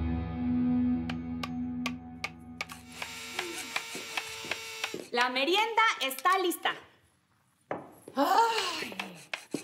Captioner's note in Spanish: Ruidos al trabajar